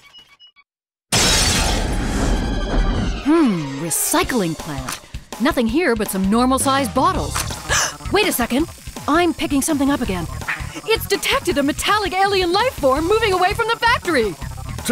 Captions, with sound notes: [ crash ] Hmmm... Recycling plant? Nothing here but some normal-sized bottles. [ gasp ] Wait a second... [ radar buzzing ] I'm picking something up again. It's detected a metallic alien lifeform moving away from the factory.